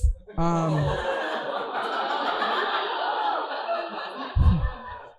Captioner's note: audience laughing